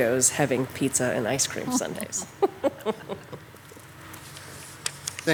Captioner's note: laughs